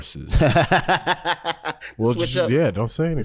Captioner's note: laughs